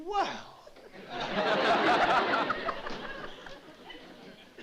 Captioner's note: laughter